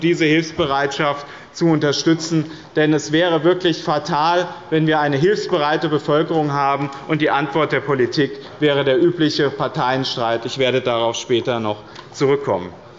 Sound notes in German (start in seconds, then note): none